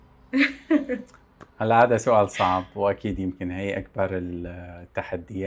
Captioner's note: laughs